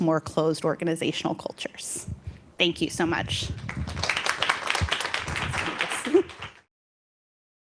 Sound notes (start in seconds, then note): 3.5 applause